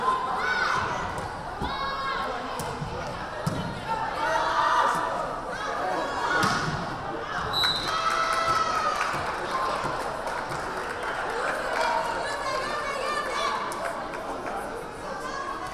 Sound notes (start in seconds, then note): 7.2 crowd cheering; 7.5 whistle blaring